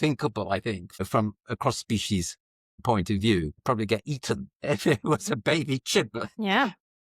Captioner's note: laughs